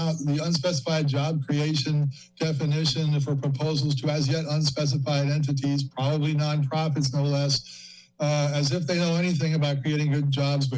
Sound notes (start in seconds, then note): 7.6 inhales